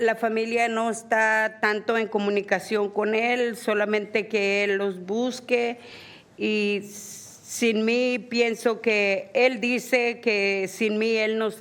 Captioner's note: speaking spanish